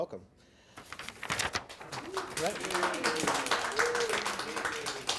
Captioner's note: audience applause